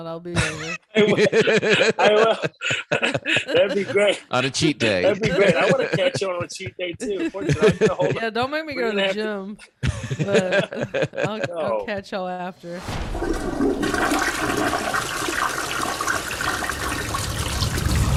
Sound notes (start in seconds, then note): 0.3 laughter; 13.0 toilet flashes